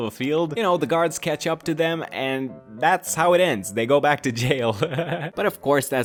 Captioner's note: laughter